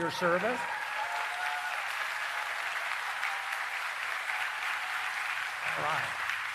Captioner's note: applause